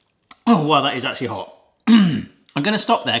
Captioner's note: clears throat